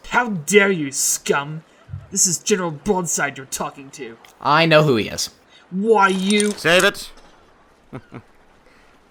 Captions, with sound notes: How dare you scum! This is General Broadside you're talking to. I know who he is WHY YOU- Save it! (Chuckles)